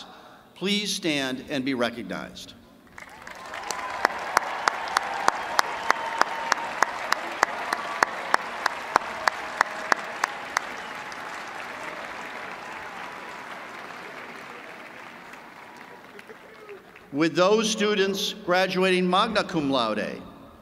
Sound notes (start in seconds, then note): 4.4 applause